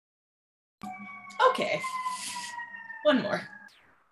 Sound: siren screaming

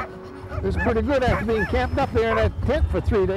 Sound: speaking in foreign language

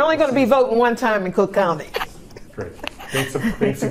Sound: laughs

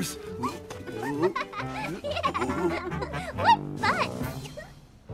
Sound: she laughs

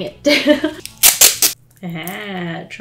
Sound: laughs; tape rips off

